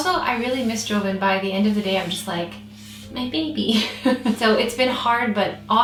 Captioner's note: chuckles